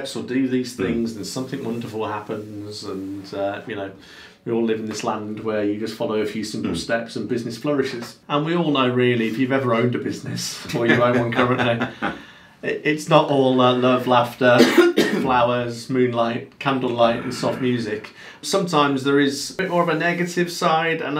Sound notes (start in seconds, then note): 10.7 both laughing; 14.5 coughing